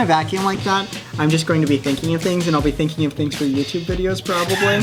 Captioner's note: chuckles